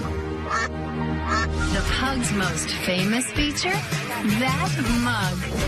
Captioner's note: duck quacking